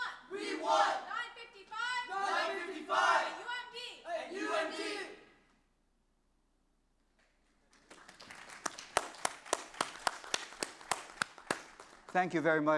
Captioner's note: applause